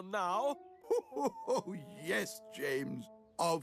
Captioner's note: laughs